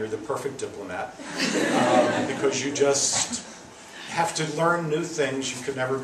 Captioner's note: laughs